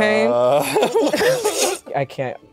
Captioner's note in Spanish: ambos ríen